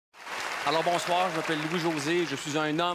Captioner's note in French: applaudissements